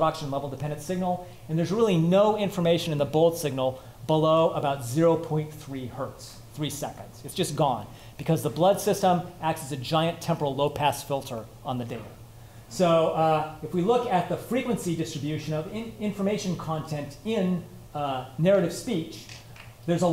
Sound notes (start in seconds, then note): none